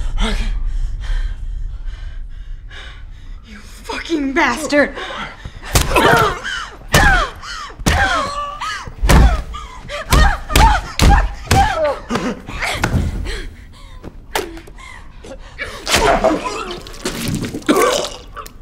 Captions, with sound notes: Rocky? You fucking bastard. [BOTH GRUNTING] Fuck you! [GAGS AND CHOKES]